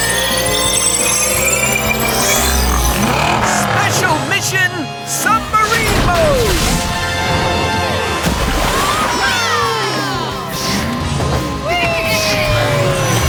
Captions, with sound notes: Special mission submarine mode! [cheering] Wee!